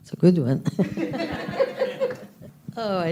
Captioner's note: laughter